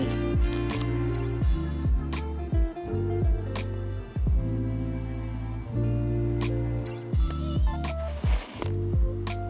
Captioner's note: kissy noises